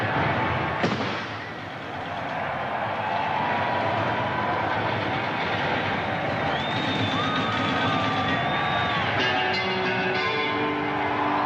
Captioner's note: audience cheering